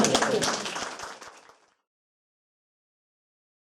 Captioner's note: clapping